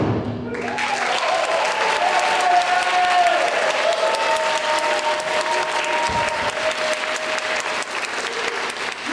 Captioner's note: applause